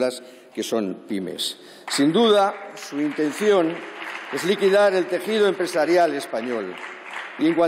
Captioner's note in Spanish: Aplausos